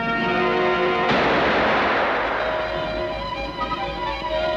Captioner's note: gun fires